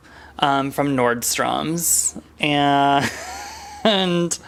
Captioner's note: laughs